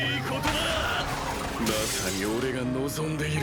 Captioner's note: sound of glass breaking